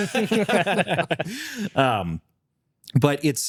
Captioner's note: laughs